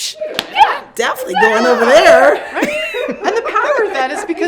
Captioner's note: laughs